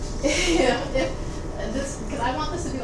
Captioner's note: chuckles